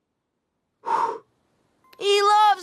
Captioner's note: exhales sharply